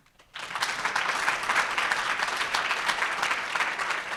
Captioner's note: audience applauds